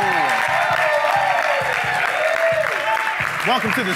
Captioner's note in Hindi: ताली